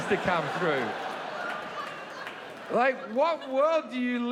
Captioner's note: audience laughing